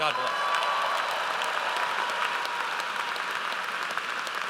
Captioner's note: audience applauds